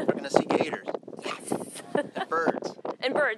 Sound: laughs

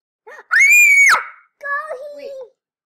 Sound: loud Scream

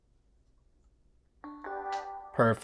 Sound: computer chimes

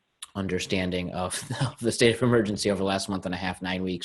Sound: laughs

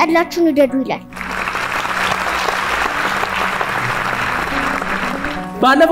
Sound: applause

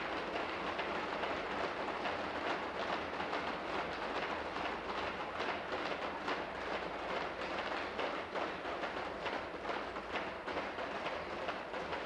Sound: tapping on desks

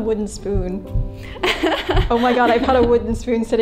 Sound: laughs

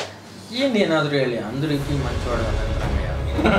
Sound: telugu movie dialog

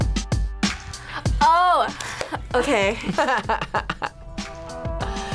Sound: laughs

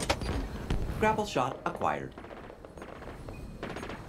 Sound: robotic Voice

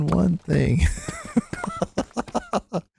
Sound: laughs

